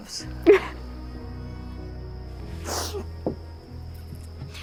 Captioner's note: sobbing